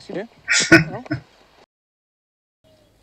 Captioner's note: chuckling